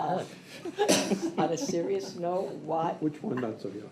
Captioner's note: laughter